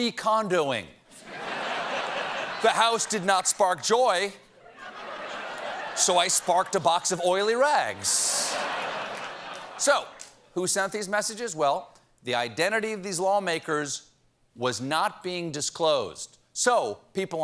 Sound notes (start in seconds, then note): 7.9 laughter